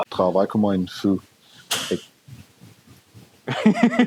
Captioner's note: sound of something fell